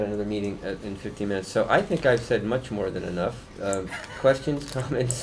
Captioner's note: laughter